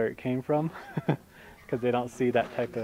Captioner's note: chuckles